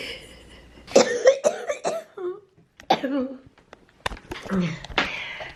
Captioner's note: coughing